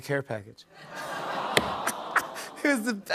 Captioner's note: audience laughs, awws